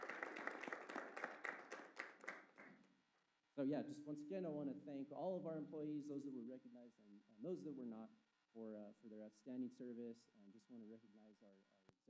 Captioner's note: applause